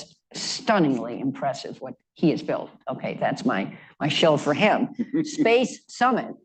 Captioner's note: laughter